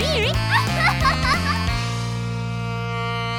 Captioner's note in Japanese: ツボに入った爆笑